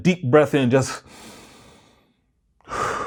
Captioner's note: breathes deeply